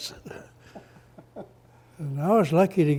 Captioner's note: both laugh